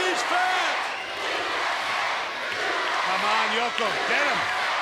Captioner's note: applause